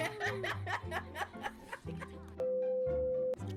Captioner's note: laughing